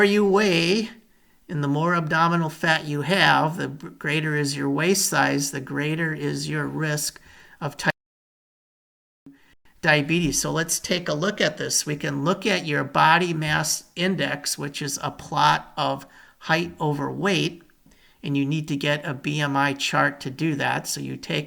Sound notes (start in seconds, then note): 8.5 audio trails off